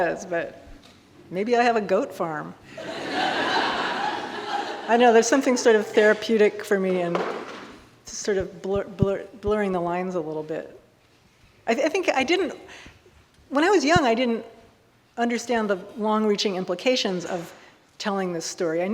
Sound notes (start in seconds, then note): 2.7 audience laughing